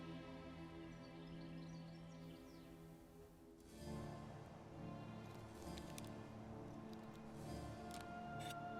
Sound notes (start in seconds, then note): 0.9 birds singing; 4.0 soft music